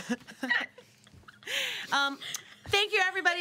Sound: girls laughing

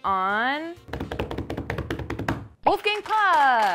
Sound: hands drumming; audience clapping

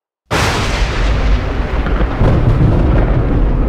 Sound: storm rumbling

